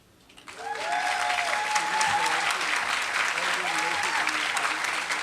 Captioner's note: applause